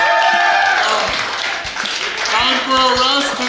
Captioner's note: cheering & Clapping